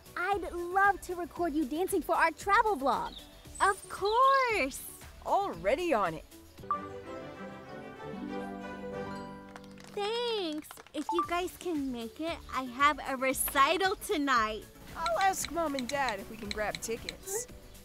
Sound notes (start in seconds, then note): 6.3 instrumental music; 9.4 clapping